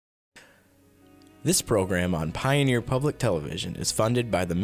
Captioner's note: voiceover